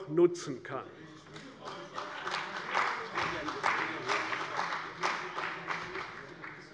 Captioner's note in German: Beifall bei der CDU - Zuruf von der SPD: Spielräume?